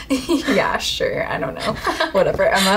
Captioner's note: laughing